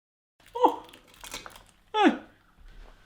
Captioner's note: yelps